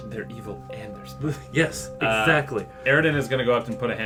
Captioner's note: quietly